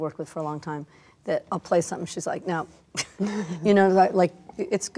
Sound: laughs

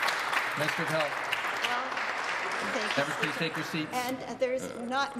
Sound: some Applause

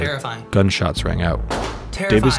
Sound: gun fires

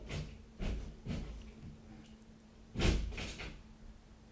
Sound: wall banging

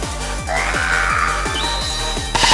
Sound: sounds of dying and falling

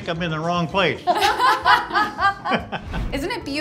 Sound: laughing

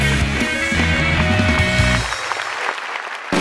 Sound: clapping

